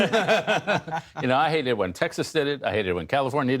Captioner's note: laughter